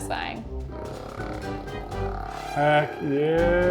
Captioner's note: nail polish vibrating